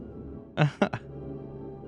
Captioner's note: small laugh